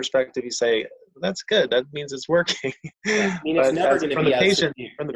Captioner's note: chuckles